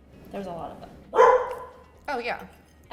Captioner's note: Gus barks